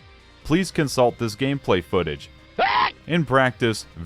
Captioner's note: screaming but not too loud to prevent an unintended jumpscare